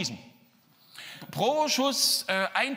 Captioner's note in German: Pfiff